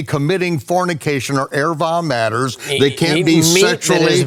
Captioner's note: speaks in foreign language